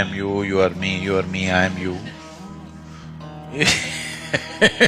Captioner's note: laughs